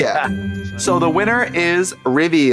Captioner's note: festive chime